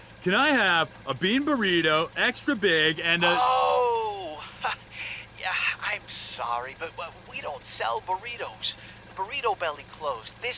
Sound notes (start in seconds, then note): 4.0 chuckles